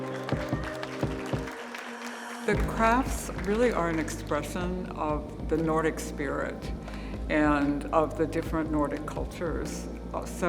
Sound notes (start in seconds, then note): 0.0 group applauding